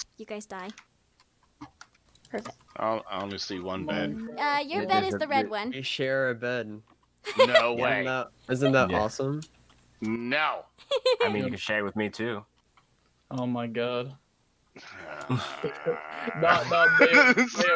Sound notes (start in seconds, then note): 14.8 groans